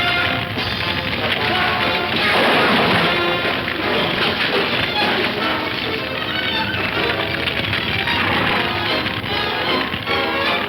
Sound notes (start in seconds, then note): 1.7 objects crashing; 3.8 dramatic music; 3.8 fire crackling